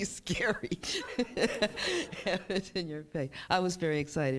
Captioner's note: chuckles